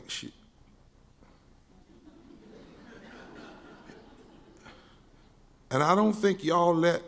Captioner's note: scattered audience laughing